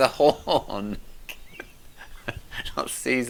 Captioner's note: laughing